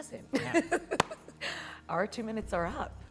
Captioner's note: laughs